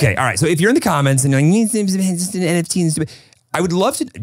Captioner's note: mutters